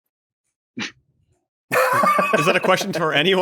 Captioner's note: laughter